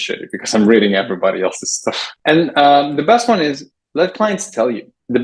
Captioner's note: laughs